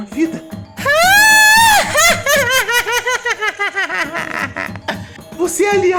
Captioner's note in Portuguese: Risada macabra